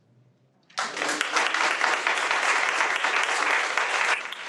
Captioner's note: audience applauds